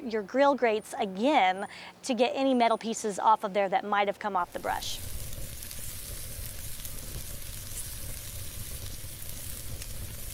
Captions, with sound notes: your grill grates again to get any metal pieces off of there that might've come off the brush. (skewers sizzling)